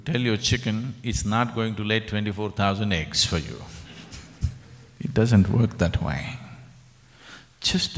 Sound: laughs

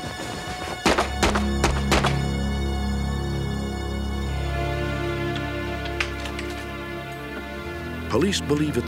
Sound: muffled gunshots

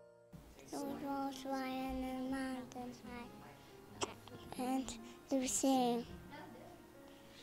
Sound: hiccup

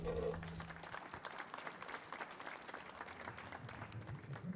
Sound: audience clapping

